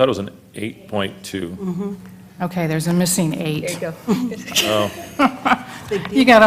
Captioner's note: laugh